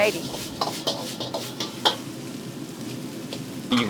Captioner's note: clanging